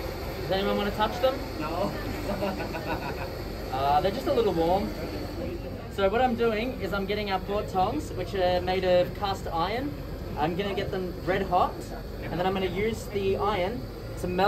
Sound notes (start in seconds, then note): 1.8 laughters